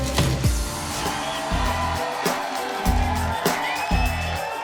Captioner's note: applauses